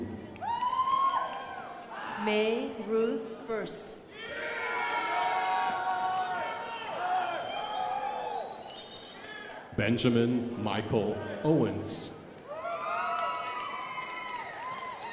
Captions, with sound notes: (crowd applauding) May Ruth Bass. (crowd applauding) Benjamin Michael Owens. (crowd applauding)